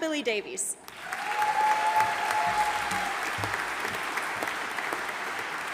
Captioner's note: audience applauding